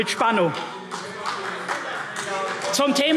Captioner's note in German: Beifall CDU